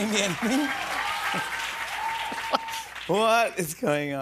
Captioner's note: cheers and applause